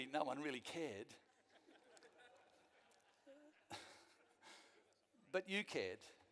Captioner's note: some of the audience laugh